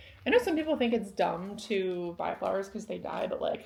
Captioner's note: none